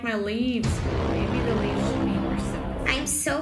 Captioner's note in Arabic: ضوضاء مثيرة; تمتم